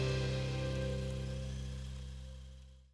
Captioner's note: drone whirring